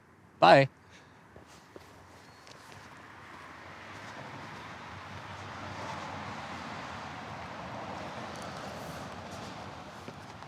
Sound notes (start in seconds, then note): 3.9 light wind and traffic